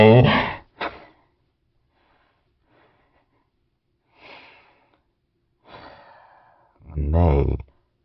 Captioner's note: silence